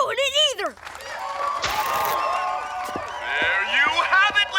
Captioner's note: crowd cheering